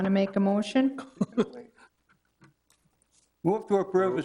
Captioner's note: councilor chuckling